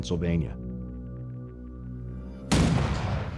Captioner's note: cannon firing